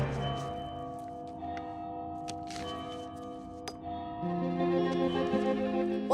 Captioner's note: bell tower ringing